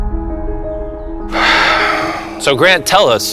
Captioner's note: heavy exhale